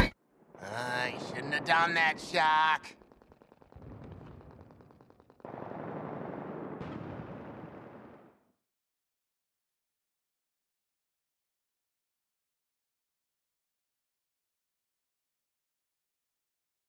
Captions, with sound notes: Ahhhh, you shouldn't have done that Shark. [Distant gunfire and explosions]